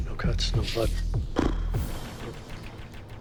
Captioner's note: raspberry